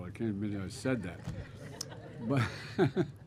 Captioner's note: laughter